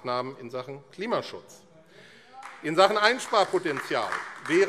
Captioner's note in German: Beifall AfD - Zuruf: Oh!